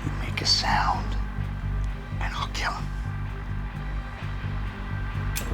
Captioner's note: none